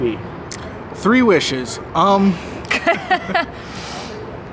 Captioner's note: laughs